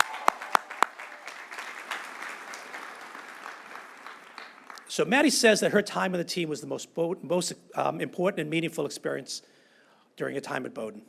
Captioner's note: applause